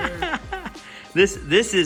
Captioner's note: laughing